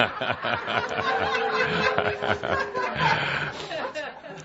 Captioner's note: laughter